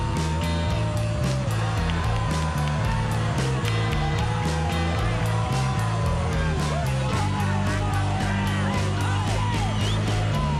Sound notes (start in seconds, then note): 3.7 bouncy music continues; 3.7 crowd chattering